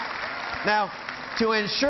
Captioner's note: cheering